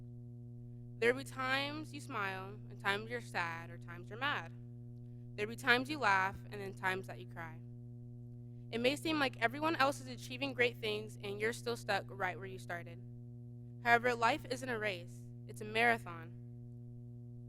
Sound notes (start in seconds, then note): none